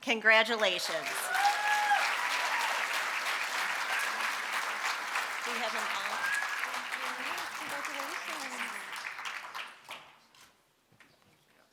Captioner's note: applause